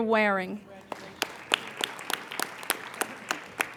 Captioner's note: applauding